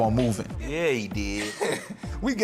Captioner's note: laughing